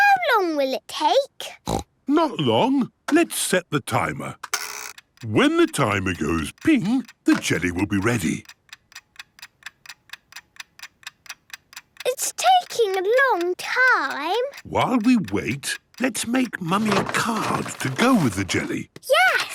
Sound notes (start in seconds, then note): 1.6 snorts; 9.3 ticking